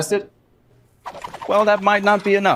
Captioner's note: air whooshes